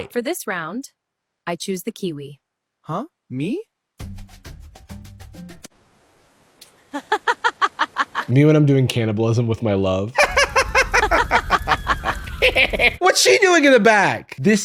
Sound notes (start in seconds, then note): 6.9 laughing; 10.2 cackling